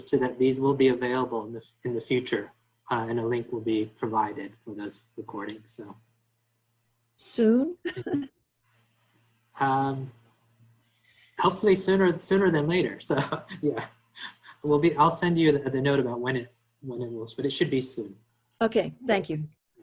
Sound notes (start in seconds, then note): 7.8 laughs; 11.4 laughs